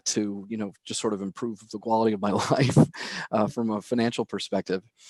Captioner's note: laughs